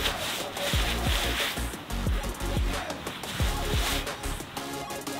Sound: clothes rustle in snow; upbeat happy music

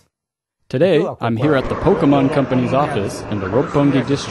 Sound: wasteland windy sounds

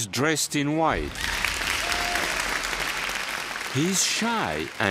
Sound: applause

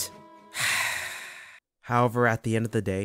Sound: sigh

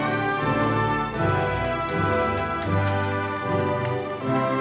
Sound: audience applauding

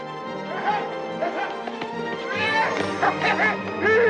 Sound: laughing and yelling

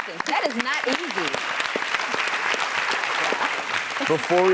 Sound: audience clapping

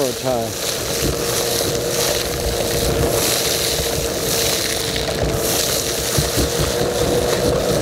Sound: vacuum sound sucking gravel

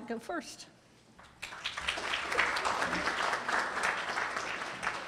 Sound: audience applauds

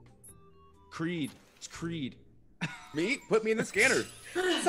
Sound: laugh

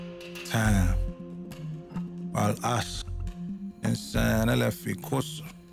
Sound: speaking in Arabic

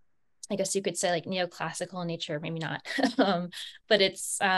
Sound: chuckles

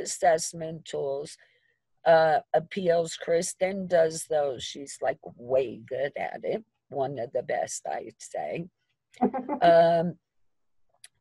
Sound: chuckling

